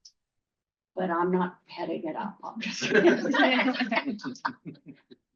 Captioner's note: laughter